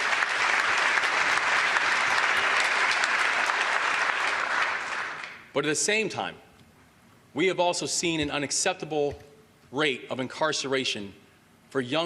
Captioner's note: applause